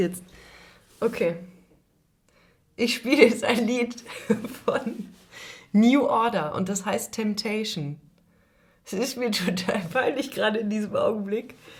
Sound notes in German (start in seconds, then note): 4.1 gelächter